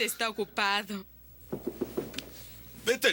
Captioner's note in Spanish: batendo na porta